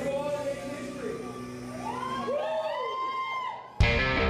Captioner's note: cheering; rock music